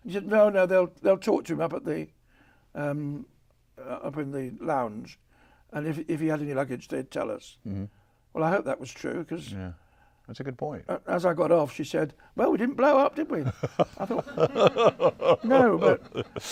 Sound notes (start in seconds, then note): 13.4 laughs